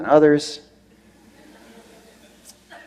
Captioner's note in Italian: Risate